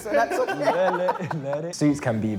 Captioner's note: laughs